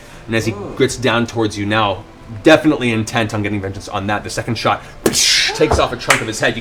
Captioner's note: impact sound